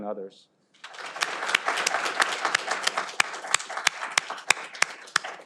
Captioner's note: audience applauding